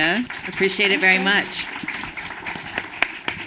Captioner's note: applause